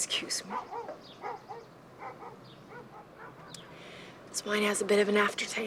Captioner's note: dog barking